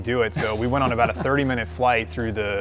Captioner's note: laughs